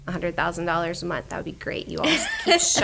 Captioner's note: laughter